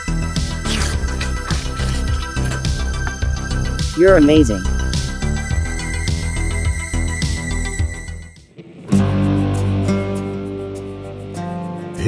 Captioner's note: slurp